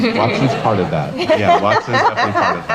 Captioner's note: laugh